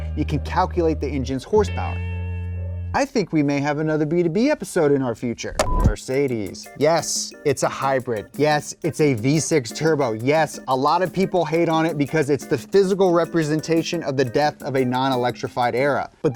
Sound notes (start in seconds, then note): 5.6 beeps